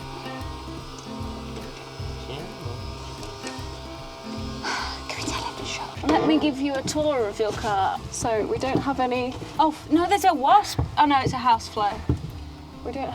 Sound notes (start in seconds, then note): 0.1 lawn mower buzzing; 5.2 whispers